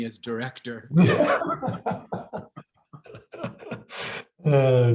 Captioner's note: laughs